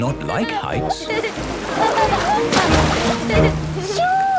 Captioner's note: laughing